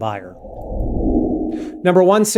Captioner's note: air whooshing